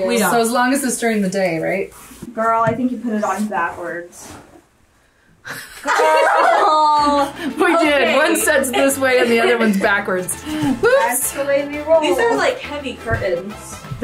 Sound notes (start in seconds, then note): 5.4 all laughing